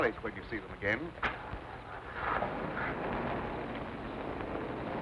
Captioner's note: engine rumbling